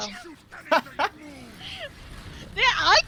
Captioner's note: laughs